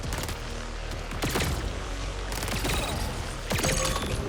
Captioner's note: guns firing